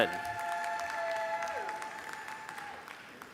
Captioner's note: applause